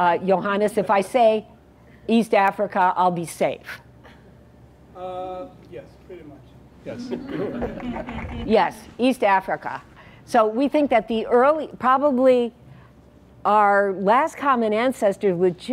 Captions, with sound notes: Johannes, if I say East Africa I'll be safe. >> Yes pretty much, yes. >> [LAUGH] >> Yes, East Africa. So we think that probably our last common ancestor with